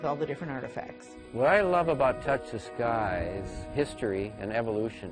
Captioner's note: voiceover